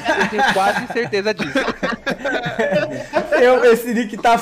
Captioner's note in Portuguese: risos